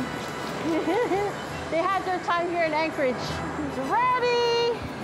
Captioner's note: laughing